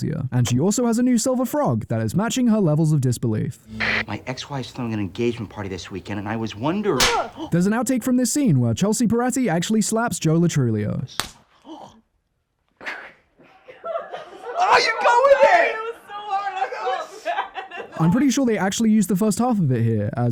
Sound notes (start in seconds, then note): 13.4 general shocked giggles; 16.5 more giggling